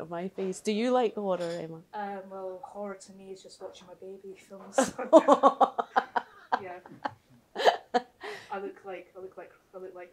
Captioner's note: laughter